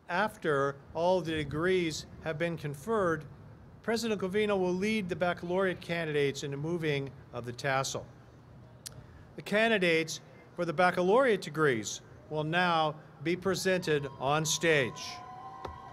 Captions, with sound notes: After all the degrees have been conferred, President Covino will lead the Baccalaureate candidates in the moving of the tassel. The candidates for the Baccalaureate degrees will now be presented on stage [applause].